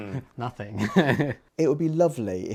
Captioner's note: chuckles